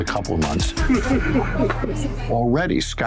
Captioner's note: laughter